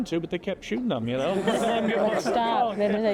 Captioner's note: laughter